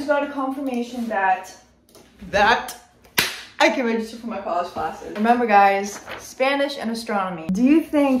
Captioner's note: clap